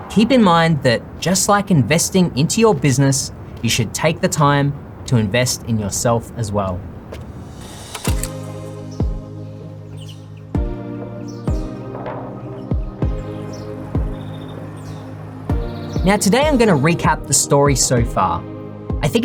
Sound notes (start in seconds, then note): 8.1 upbeat music; 11.5 birds chirping